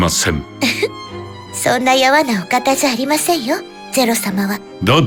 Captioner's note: giggle